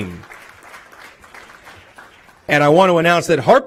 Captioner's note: applause